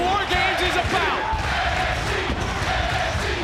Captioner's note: crowd chants